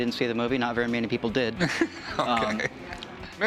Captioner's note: laughs